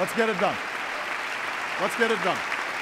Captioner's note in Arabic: تصفيق